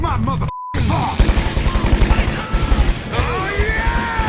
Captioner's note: firing machine guns